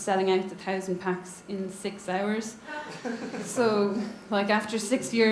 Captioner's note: audience laughs